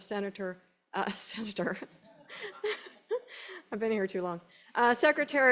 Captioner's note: laughing